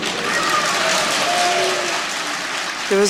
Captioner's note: boos and applause